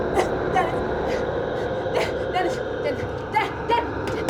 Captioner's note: shouting